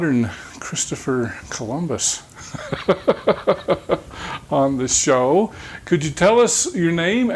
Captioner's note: chuckling